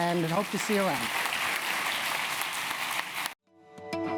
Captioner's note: applause